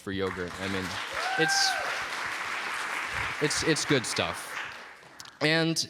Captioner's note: applause